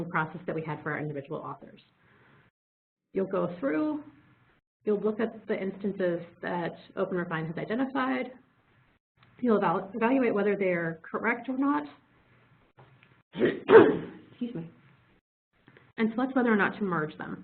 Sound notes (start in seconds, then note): 13.3 coughs